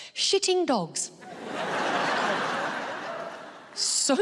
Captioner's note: audience laughing